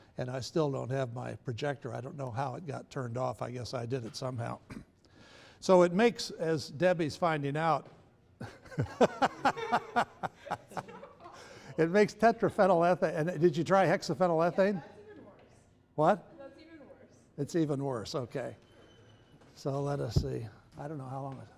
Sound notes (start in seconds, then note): 8.4 laughter